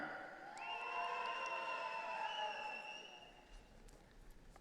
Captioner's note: audience cheering